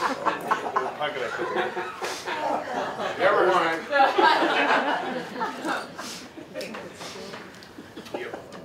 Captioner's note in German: Gelächter